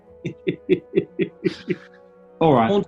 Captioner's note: chuckling